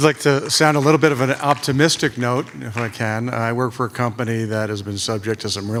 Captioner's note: applause